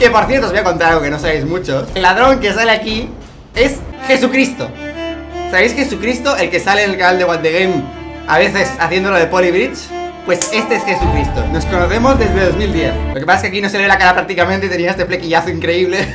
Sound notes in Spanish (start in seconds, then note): 10.4 palmada